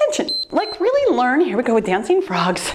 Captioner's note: timer beeps